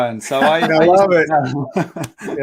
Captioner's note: laughing